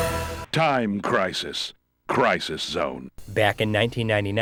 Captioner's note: game audio